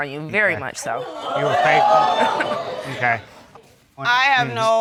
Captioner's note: audience gasps